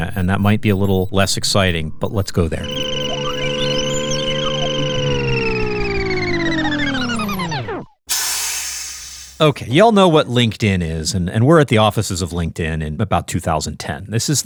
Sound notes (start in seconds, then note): 2.0 time machine whirring; 8.1 steam hissing